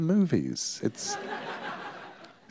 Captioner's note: laughter